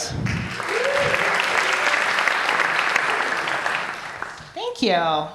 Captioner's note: applause